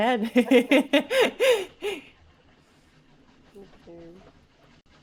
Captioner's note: chuckles